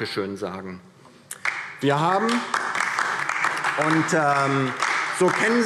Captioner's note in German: Beifall DIE LINKE und vereinzelt SPD